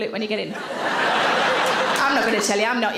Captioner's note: audience laughing